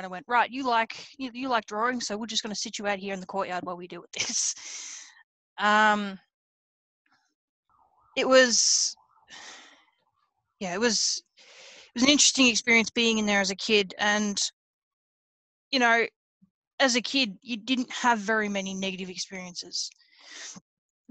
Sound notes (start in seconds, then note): 5.5 laughs